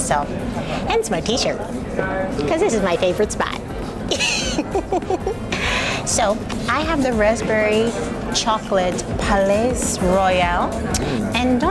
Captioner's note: laughs